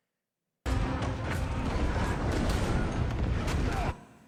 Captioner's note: fighting sounds